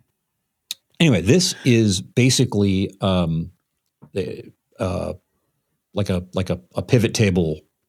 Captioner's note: laughs